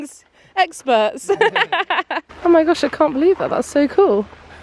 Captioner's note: laughing